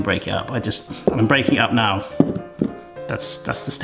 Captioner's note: cubes thudding in bowl